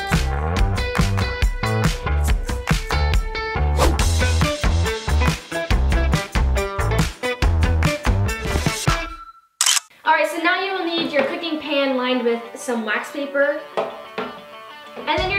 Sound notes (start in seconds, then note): 3.9 swooshing; 9.7 clicking